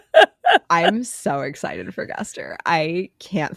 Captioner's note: laughing